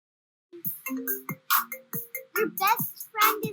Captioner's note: phone ringing